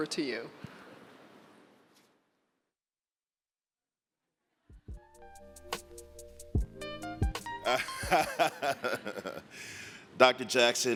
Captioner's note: laughter